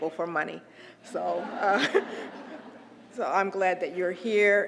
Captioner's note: laugh